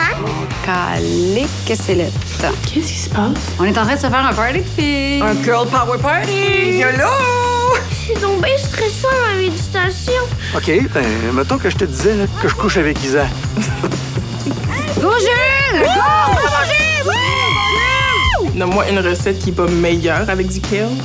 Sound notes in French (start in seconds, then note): 13.5 rires